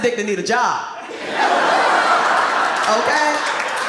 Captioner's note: audience laughs